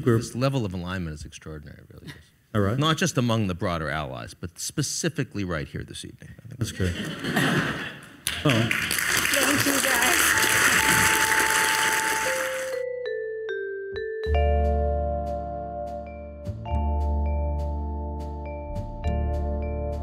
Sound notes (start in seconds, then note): 6.7 audience laughs; 10.3 audience applauds